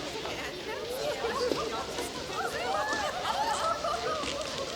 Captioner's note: townsfolk murmur and giggle